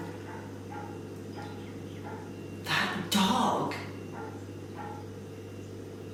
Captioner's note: dog barking